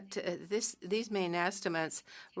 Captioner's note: speaking French